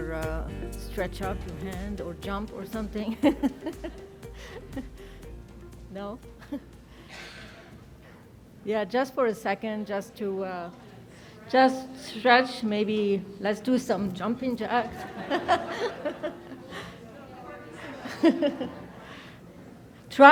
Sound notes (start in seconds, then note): 3.2 laughs; 6.9 laughs; 14.8 audience laughs; 14.9 laughs; 17.3 audience chattering; 17.4 laughs